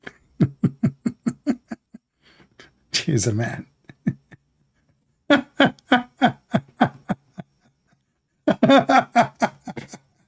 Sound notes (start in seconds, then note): 0.3 Ketawa; 5.2 Ketawa